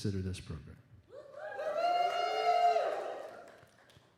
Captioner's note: applause and cheering